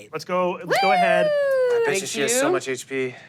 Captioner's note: cheering